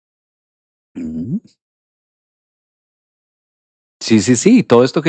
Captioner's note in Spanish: carraspeo